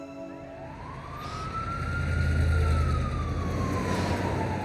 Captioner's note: siren wails